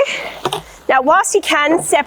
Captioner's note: cap pops